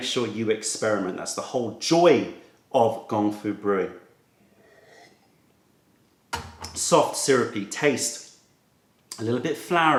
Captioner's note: sips tea